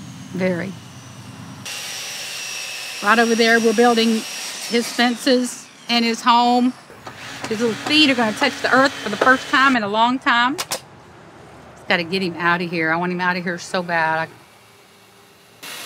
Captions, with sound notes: Very. (saw whirring) Right over there, we're building his fences and his home. His little feet are going to touch the earth for the first time in a long time. Just gotta get him out of here. I want him out of here so bad.